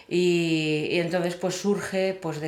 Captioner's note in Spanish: none